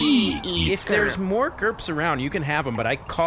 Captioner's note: sighs